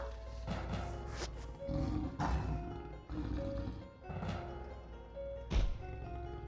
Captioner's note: growls; dramatic music